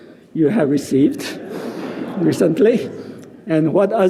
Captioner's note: audience laughing